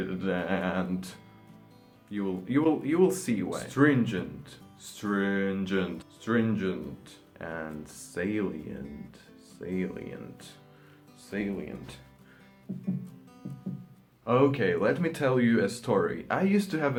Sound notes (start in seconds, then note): 10.8 beating heart